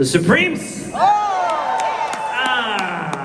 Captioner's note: crowd cheers